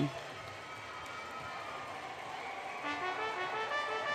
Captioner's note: applause